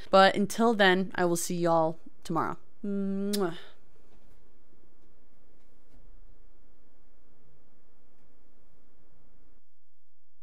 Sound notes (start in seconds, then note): 3.2 kiss